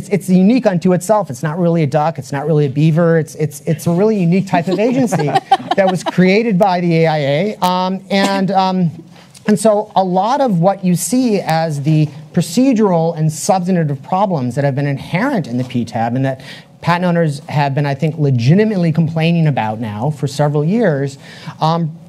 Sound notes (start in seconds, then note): 4.5 panelists laugh